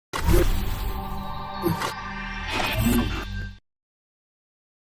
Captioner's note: electrical glitch noise